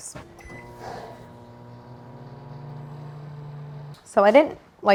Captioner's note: microwave beeps and whirs